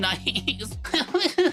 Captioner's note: laughs